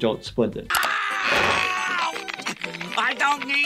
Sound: Squidward screaming

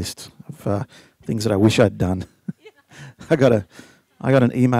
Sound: chuckles

